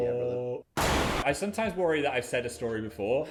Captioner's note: fist blasting